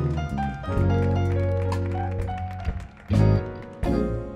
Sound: audience cheering

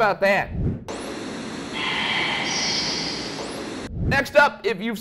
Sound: static crackles

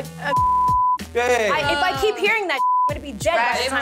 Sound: beep

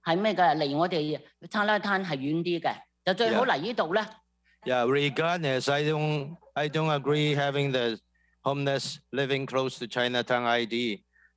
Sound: speaking non-english

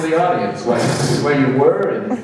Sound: sputters loudly

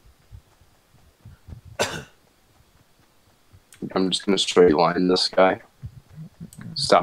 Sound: cough

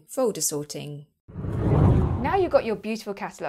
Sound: air swooshing

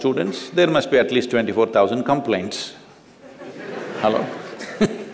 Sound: laughter; laughs

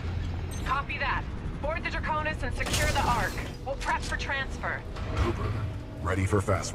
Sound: radio

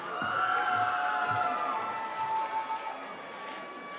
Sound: cheering

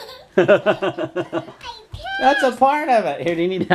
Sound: laughs

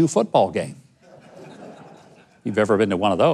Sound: audience laughing

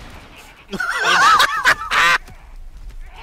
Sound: laughter

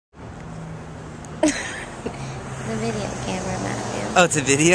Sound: laughter

